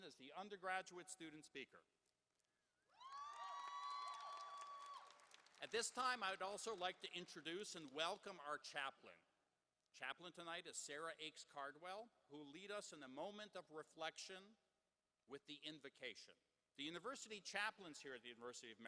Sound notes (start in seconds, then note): 2.9 applause